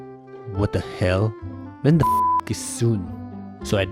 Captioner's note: beep